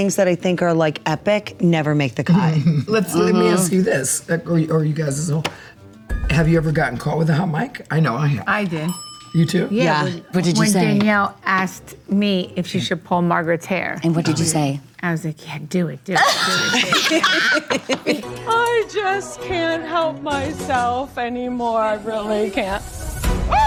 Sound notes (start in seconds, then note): 8.8 bell dings; 16.2 group laughs